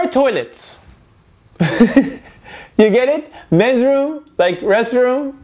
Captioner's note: laughs